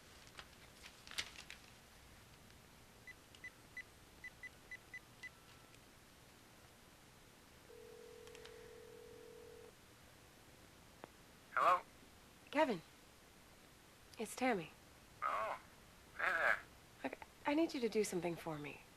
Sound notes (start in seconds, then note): 7.7 telephone ringing